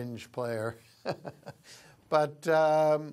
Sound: laughter

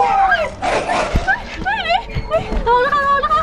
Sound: screams; gasping

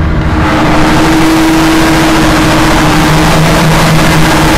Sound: boat roars

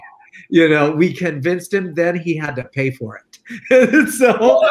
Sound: laughs

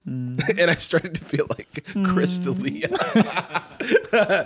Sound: laughs

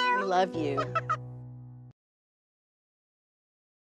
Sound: Elmo laughs

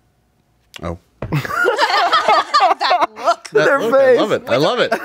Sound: all laughing

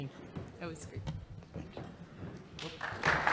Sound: applause

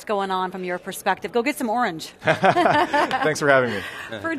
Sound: laughing

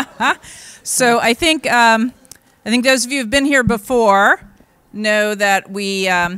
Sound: laughs

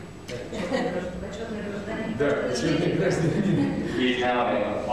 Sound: non-english speech

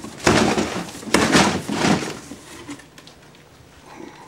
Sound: packaging cracks

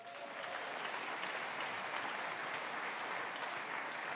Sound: audience applauding

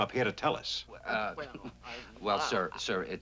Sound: stuttering

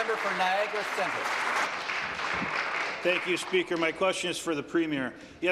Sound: applause

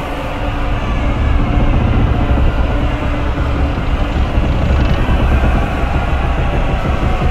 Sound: large rumble above

